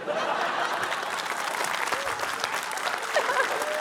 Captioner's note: laughter, applause